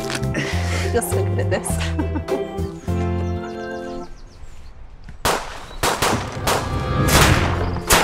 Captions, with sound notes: You're so good at this. (Gun shots)